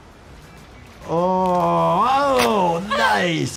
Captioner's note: joint pops